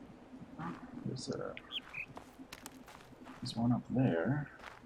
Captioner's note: bird chirps high-low